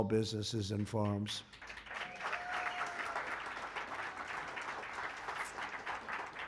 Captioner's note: applause